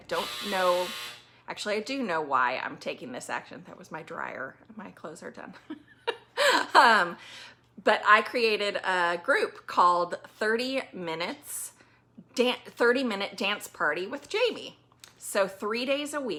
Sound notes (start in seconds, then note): 3.2 that – buzz noise – was my dryer. My clothes are done